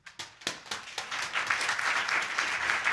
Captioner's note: audience applauding